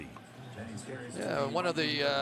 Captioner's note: pa announcement